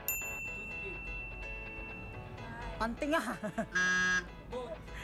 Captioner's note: laughs